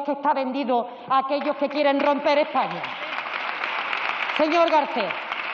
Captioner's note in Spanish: Aplausos